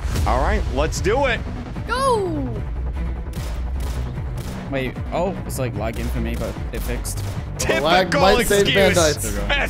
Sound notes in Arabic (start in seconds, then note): 3.3 طلقات نارية